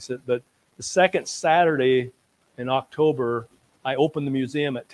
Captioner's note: none